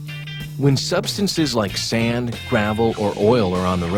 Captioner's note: voiceover